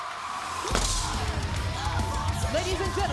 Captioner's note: Rhea stomps foot